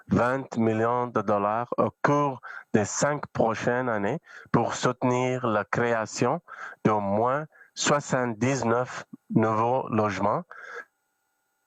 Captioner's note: speaking French